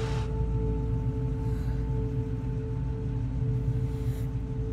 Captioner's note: Quinn holds breath; Ellie holds breath